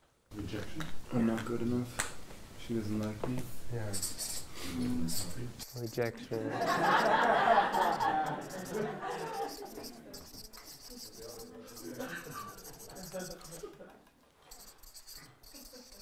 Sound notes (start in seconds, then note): 6.2 laughter